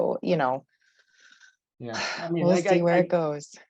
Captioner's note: sighs